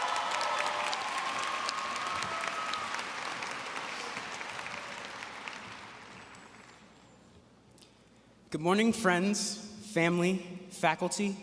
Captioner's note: applause